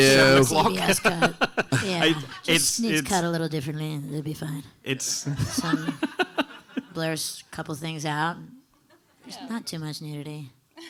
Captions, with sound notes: - At seven o'clock. (panelists laughing) - Yeah, it just needs cut a little differently, and it'll be fine. (audience laughing) Blurs a couple things out. There's not too much nudity.